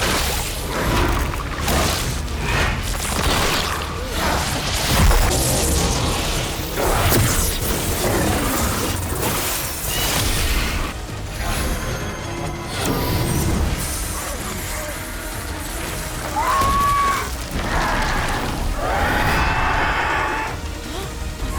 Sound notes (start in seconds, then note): 0.1 spells continue arcing; 8.3 spells continue arcing; 11.0 rousing music; 13.0 spells tinkling; 17.6 crow screeching